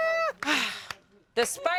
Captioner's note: sighs